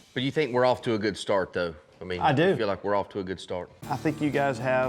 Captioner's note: none